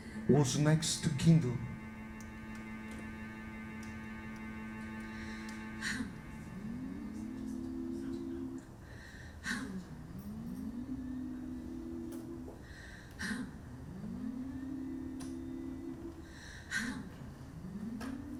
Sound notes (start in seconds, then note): 6.2 women hum